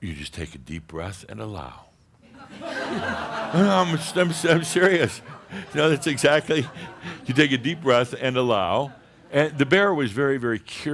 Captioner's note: lots of laughter